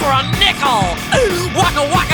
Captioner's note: inhale